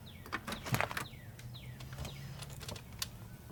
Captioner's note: birds chirping